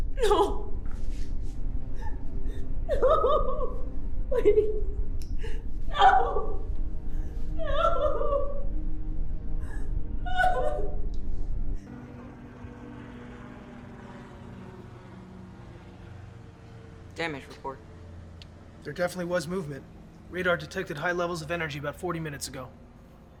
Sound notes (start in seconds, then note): 2.3 crying; 10.3 crying; 11.8 jet engines roaring